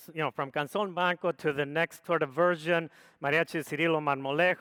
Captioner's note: speaks foreign language; speaks foreign language